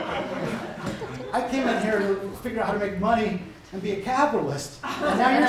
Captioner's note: laughter